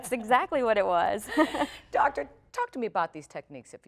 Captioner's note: laughter